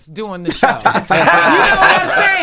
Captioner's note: everyone laughing